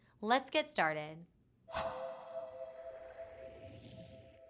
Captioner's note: whoosh